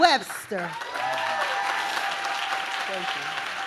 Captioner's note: audience claps